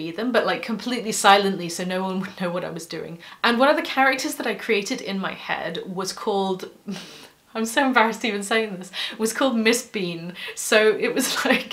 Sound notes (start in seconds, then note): 6.9 scoff